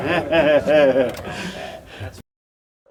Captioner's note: spectators laugh